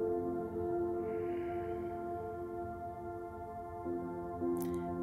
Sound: serene music continues; exhales

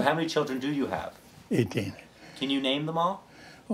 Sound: laugh

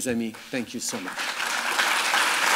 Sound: applause

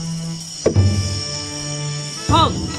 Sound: footsteps; staff thumps

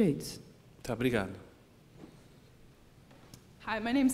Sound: speaking portuguese

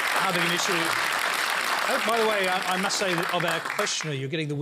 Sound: applause

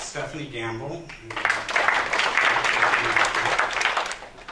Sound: applause

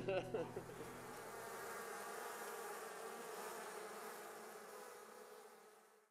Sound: laughs; bees buzz

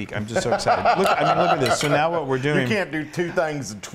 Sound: laugh

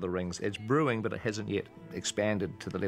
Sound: none

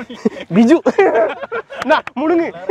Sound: everyone laughing loudly

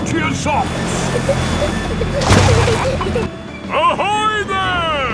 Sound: peppa and george giggling

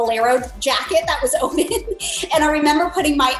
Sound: chuckles

